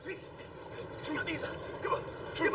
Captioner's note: Mr. T panting